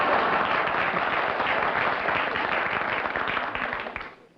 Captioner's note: laughter; applause